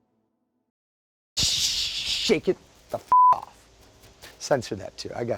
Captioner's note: beeping